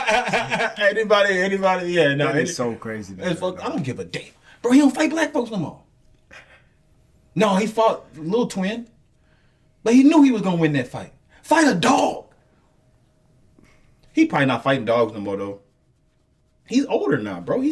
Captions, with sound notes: (laughs) - Anybody, anybody. Yeah, no, he's so crazy. - I don't give a damn. Bro, he don't fight black folks no more. - No, he fought little twin, but he knew he was gonna win that fight. Fight a dog. He probably not fighting dogs no more though. He's older now, bro.